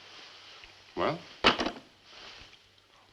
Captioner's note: hanging phone up